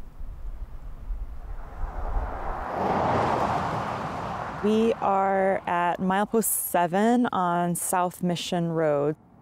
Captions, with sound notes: (car roaring) - We are at mile post seven on South Mission Road